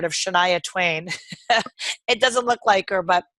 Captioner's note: chuckles